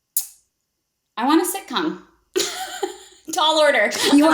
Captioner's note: laughs